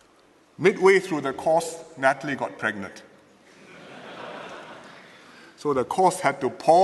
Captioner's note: laughter